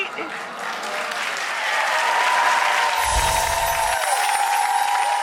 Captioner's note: audience cheers